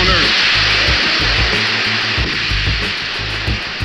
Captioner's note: audience applauding; sedate music